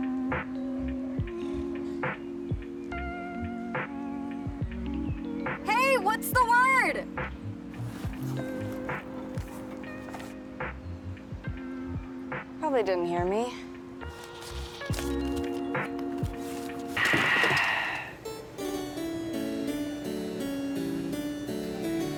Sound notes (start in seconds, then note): 14.0 papers rustle; 14.6 peaceful music; 18.2 cheerful classical music